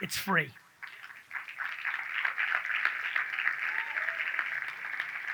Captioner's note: audience claps